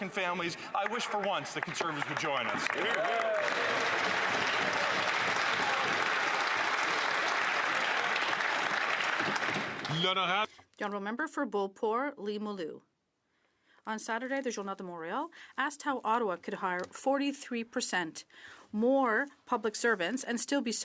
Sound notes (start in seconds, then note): 6.6 some Applause